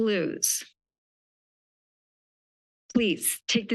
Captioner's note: pause